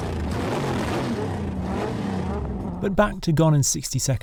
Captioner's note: car engines roaring